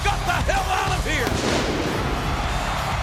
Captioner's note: pyrotechnics exploding; crowd cheering